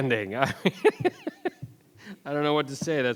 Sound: laughing

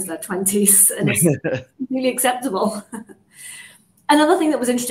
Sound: chuckles

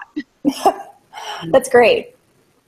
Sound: laughs

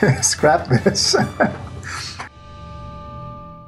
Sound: chuckling

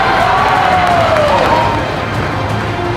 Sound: crowd cheering

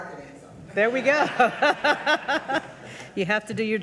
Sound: audience laughing; laughing

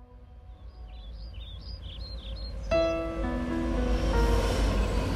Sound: birds chirping

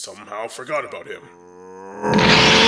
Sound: PICCOLO shouts

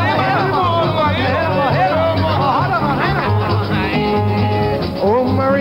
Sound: overlapping rhythmic chatter

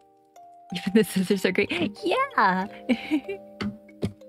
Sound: laugh

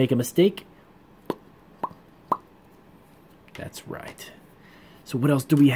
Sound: pop sounds

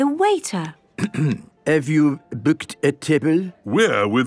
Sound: clears throat

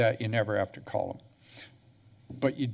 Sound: pause

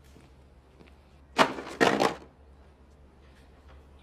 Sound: clattering

